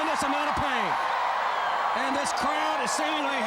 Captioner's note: crowd cheering